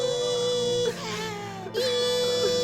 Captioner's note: inhales